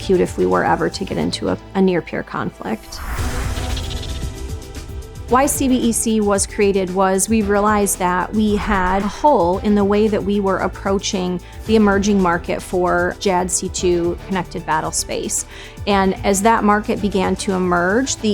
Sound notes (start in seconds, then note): 2.7 air whooshing; 3.4 epic music